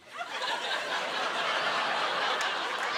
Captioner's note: laughter